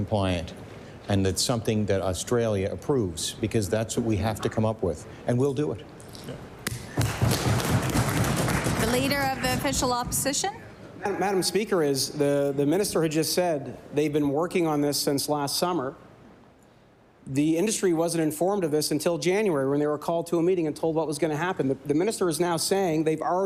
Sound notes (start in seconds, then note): 10.5 applause